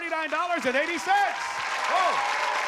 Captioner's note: applause and cheering